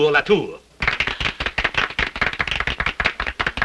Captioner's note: a few people clapping